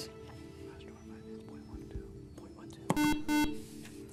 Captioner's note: whispering; beeping